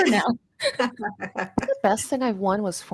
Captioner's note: laughs